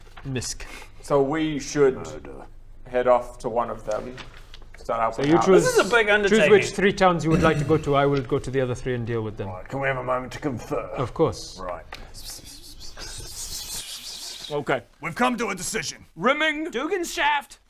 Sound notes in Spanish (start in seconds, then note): 12.1 ruidos de murmuros; 13.8 más ruidos de murmuros